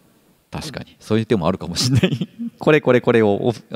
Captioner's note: chuckles